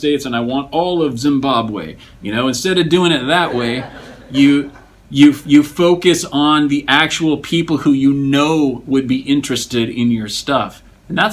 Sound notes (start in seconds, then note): 3.3 students laugh